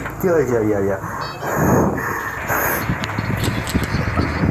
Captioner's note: panting in surprise